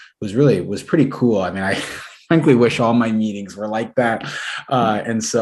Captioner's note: laughter